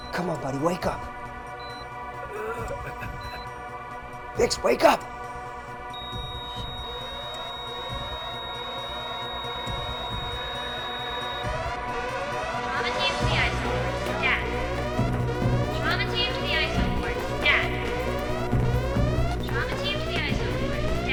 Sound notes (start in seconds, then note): 2.2 Bix groaning; 5.9 hospital monitor flatlines; 5.9 alarm blaring; 18.4 alarm blaring